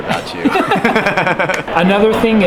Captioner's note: laughing